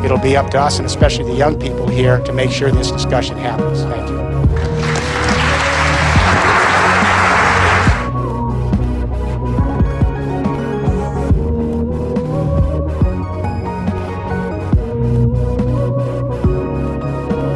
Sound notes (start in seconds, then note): 4.5 applause